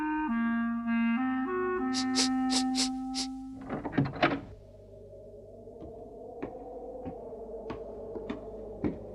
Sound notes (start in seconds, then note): 1.9 sniffs; 3.5 door clicks open